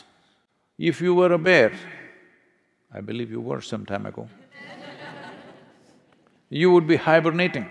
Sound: laughter

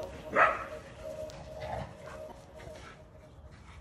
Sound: dog barking

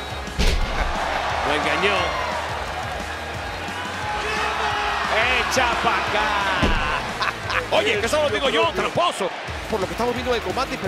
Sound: laugh

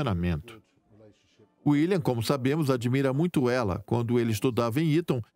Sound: voiceover

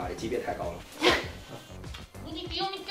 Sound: haha

